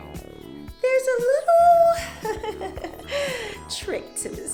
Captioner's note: chuckling